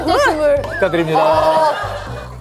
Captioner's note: second 20s bursting into laughter